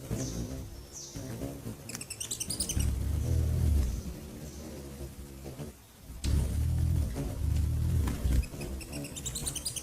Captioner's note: buzzing; bird chirping